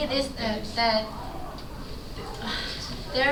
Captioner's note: sigh